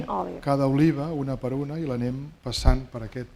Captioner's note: speaking spanish